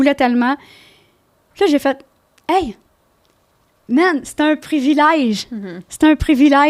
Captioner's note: in french